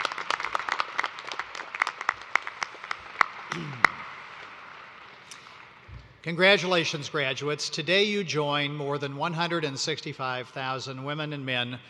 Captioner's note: applause